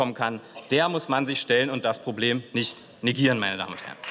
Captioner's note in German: Beifall